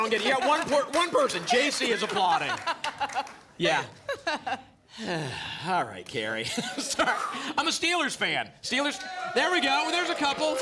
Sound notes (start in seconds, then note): 3.7 laughs; 4.9 sighs